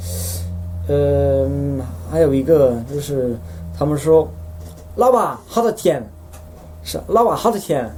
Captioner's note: stange tonation